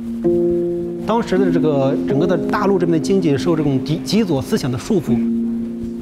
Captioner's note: speaking in Chinese